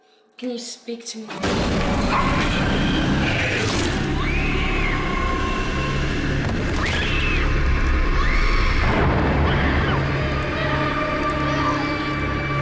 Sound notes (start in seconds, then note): 1.1 chain rattling; 1.7 sudden ominous music; 3.9 Paula screaming; 3.9 monster growling; 6.1 Paula thudding; 7.5 Paula screaming; 7.5 soft intense music